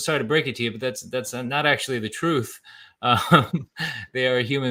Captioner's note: laughs